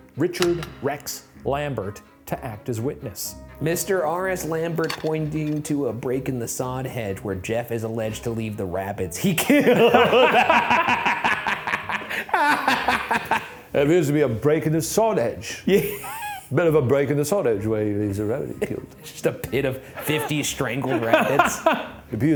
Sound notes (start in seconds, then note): 9.4 both laughing